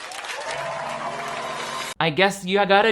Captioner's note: crowd cheering